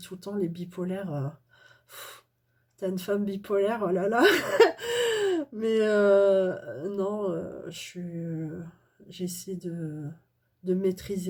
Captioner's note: laughs